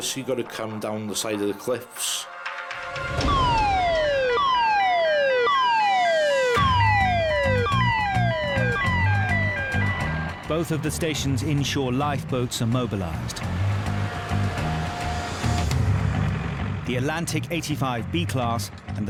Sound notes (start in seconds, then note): 3.1 alarm blaring; 8.2 dramatic music